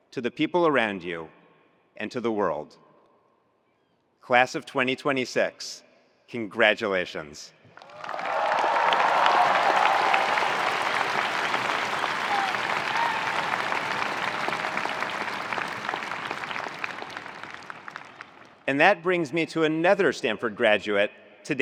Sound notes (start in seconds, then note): 7.8 attendees cheering; 7.8 attendees applauding